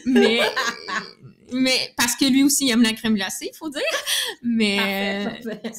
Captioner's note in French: Rires